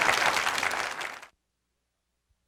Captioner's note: clapping